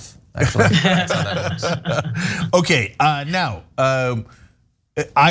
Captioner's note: laugh